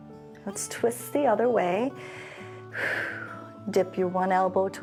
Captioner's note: inhales and exhales